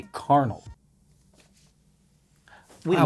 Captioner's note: silence